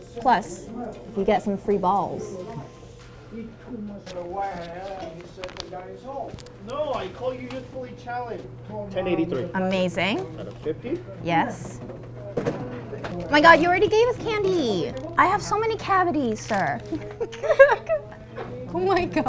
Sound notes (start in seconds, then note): 4.2 patrons chattering indistinctly; 12.4 cash register clinking; 16.9 giggling